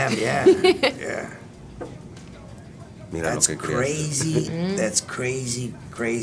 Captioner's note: laugh